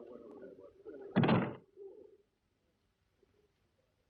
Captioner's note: door closes